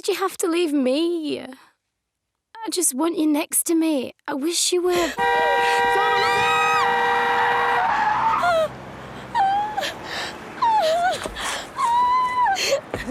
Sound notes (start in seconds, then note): 7.6 car horn